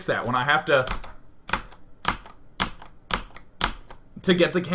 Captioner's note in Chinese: 敲 敲 敲 敲 敲